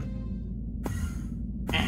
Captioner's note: teleport sounds